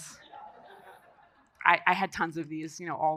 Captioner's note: audience laughing